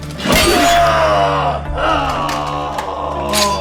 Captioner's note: grunting